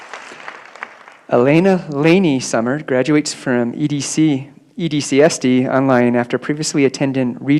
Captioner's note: applause